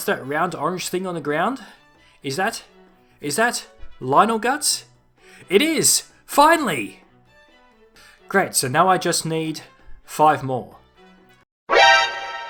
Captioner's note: alert